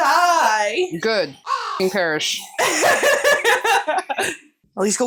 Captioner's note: caw